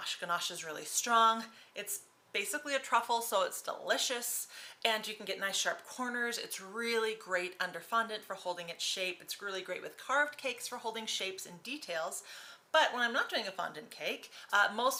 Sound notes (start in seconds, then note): none